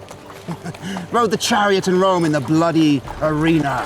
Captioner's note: chuckles